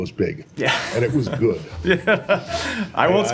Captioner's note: laughter